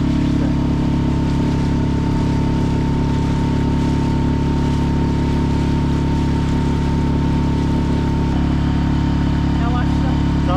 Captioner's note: engine sound